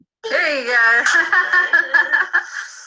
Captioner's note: disembodied Female Voice; woman laughing